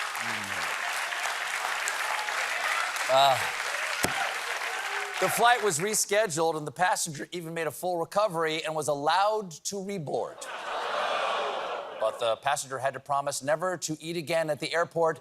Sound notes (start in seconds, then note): 4.5 applause